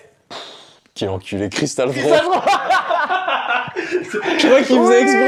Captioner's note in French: rires